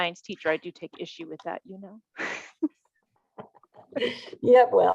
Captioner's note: chuckling